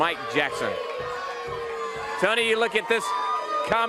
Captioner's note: crowd cheering